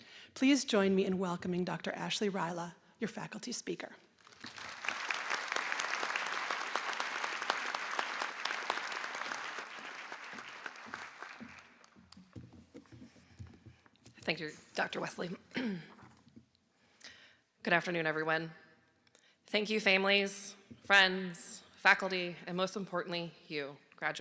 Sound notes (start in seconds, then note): 8.3 applause